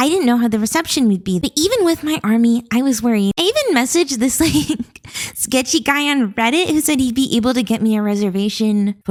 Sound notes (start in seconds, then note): 4.3 chuckles